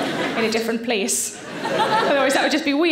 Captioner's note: audience laughing; laughing